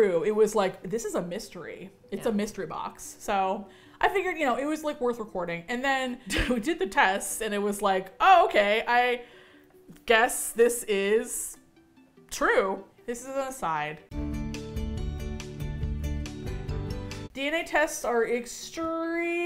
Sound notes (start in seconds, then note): 6.5 chuckles; 14.1 plunky Music